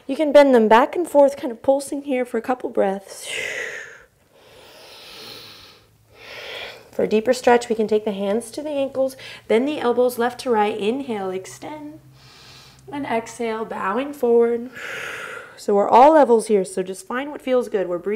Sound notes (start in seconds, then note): 3.2 inhale; 5.8 exhale